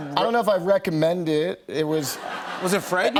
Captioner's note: laughter